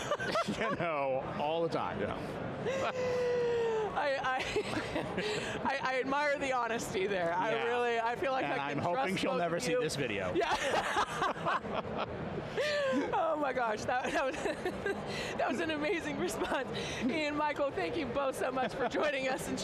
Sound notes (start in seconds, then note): 10.3 laughing; 10.4 laughs